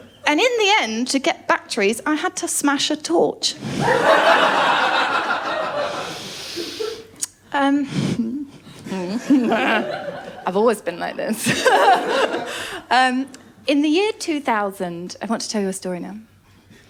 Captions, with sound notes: And in the end, to get batteries I had to smash a torch. [LAUGHTER] Hmm. [LAUGHS]. I’ve always been like this. [LAUGHTER] In the year 2000… I want to tell you a story now.